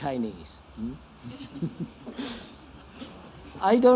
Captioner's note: laughter; laughs